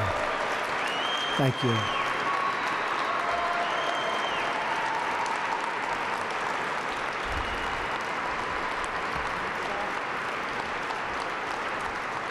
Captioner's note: applause